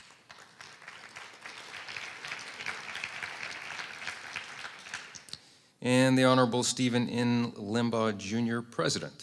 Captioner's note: applause